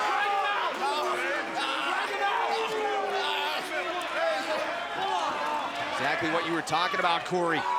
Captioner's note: crowd chatter